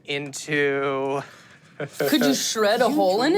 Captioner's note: laughs